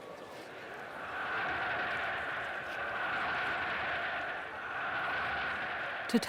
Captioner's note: crowd shouting